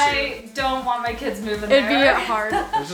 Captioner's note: laughs